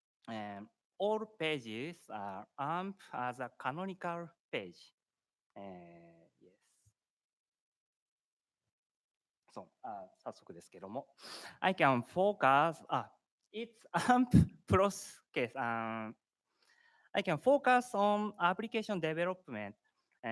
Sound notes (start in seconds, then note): 9.8 speaking japanese